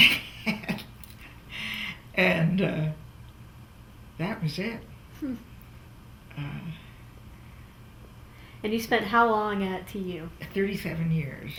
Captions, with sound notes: (Laughs) That was it. And you spent how long at TU? 37 years.